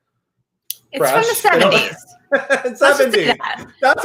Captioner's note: laughs